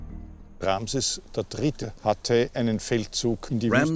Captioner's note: speaking German